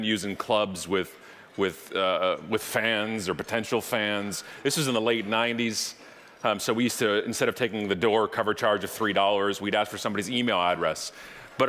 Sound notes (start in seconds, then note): none